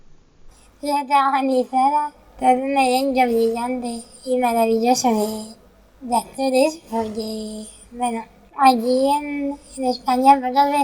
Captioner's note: laughs